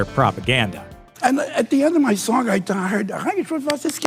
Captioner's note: speaks German